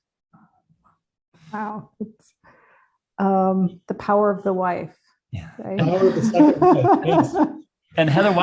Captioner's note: laughs